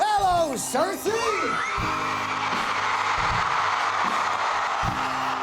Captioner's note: audience cheering